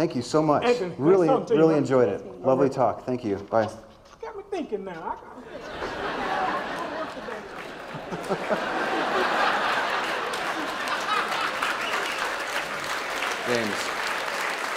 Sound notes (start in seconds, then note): 9.1 laughter; 11.3 applause